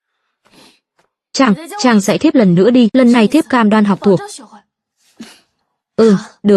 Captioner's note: khịt mũi